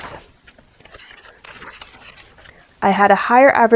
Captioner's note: pages rustling at 2x speed